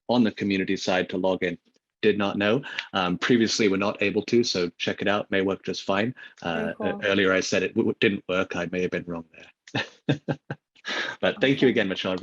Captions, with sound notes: on the Community side to log in. Did not know. Previously, we're not able to. So check it out, it may work just fine. - Very cool. Earlier, I said it didn't work, I may have been wrong there. (laughs) But thank you again, Michelle.